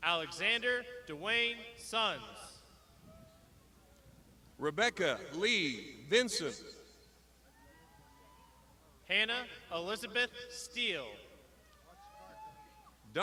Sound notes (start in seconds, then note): 7.6 crowd shouting; 11.8 crowd shouting